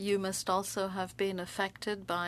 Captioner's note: speaking French